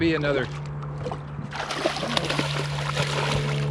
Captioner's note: fish splashing